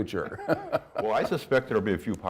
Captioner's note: laughs